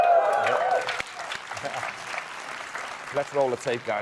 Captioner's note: applause